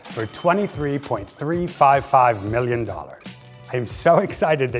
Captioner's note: register chimes